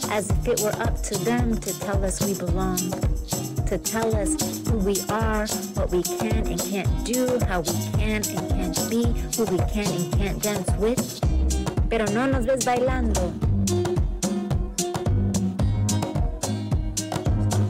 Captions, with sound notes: as if it were up to them to tell us we belong, to tell us who we are, what we can and can't do, how we can and can't be, who we can and can't dance with. (speaker speaking in foreign language) (lively music continues)